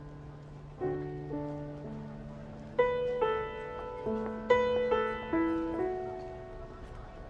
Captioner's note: gentle music; crowd chattering